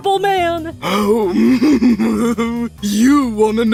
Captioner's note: evil laughter